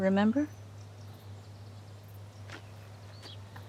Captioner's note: birds chirp